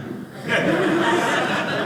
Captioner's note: audience laughing